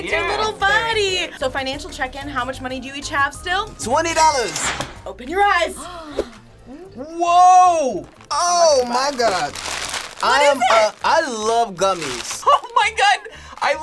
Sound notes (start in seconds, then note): 5.8 gasps